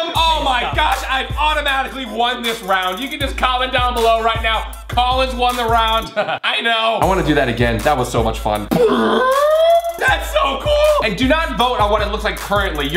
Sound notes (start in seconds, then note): 6.0 sinister laugh; 8.7 high pitch sound